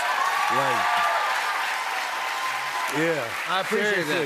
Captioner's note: cheers and applause